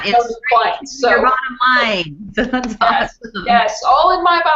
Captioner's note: laughs